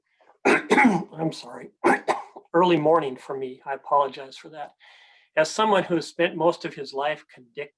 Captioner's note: coughing